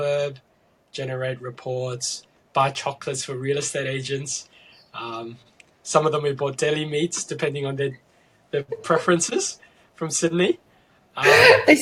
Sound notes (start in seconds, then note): 8.6 laughing